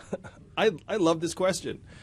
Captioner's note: yang chuckles